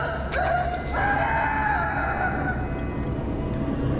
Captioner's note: gritos